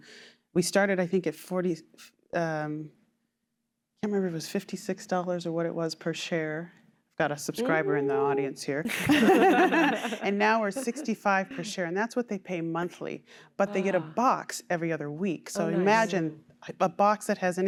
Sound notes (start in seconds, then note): 8.8 laughter